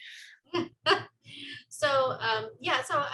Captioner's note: laughs